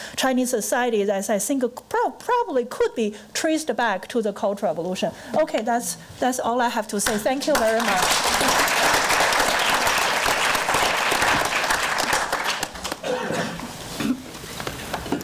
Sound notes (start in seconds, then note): 7.5 crowd applause